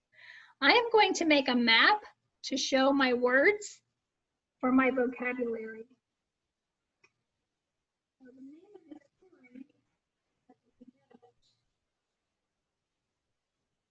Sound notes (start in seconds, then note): 8.2 murmurs